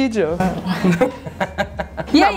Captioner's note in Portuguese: risos